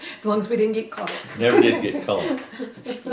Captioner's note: laughter